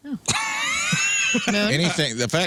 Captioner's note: laughing